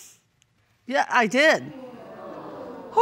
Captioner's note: audience groaning